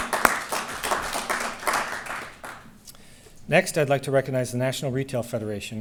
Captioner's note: applause